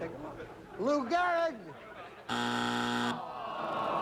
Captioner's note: buzzer